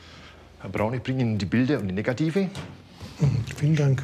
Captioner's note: in German